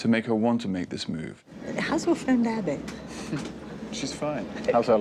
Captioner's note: chuckles